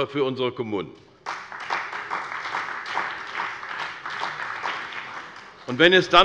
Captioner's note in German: Beifall bei der CDU und dem BÜNDNIS 90/DIE GRÜNEN